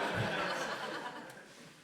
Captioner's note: audience laughs